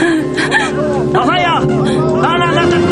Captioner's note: men speaking native language; gasps